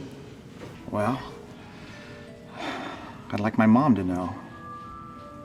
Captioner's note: sighs